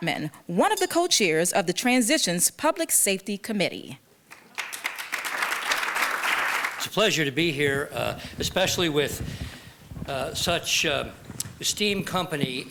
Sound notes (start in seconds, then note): 4.3 applause